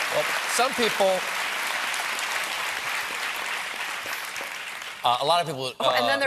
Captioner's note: applause